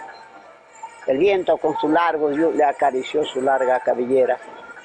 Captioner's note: participant yells